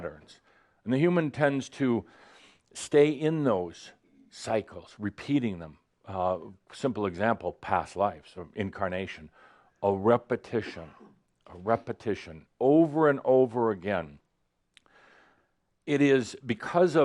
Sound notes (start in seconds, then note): none